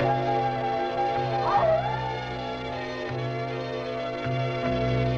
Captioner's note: animal howls